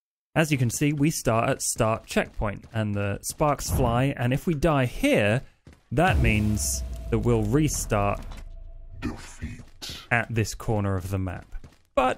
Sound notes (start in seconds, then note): 9.5 game sound